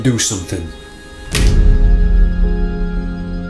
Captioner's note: card thuds; quiet peaceful music